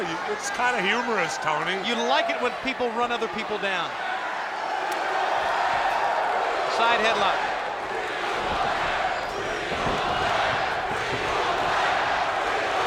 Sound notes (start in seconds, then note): 7.9 footsteps plodding